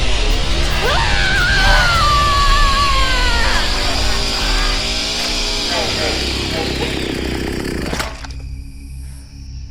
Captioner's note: chainsaw starts; screaming